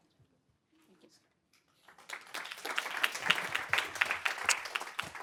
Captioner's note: applause